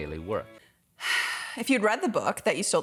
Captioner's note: sighing